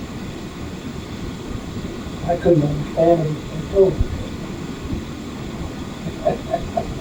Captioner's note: laughs